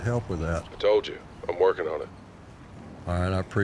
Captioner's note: on phone